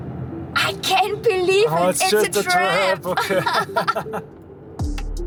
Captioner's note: laughing